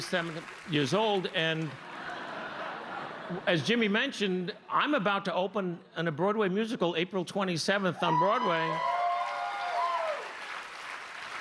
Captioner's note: cheers and applause